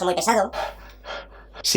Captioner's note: takes a breath